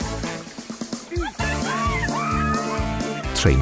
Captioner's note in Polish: krzyki dziewcząt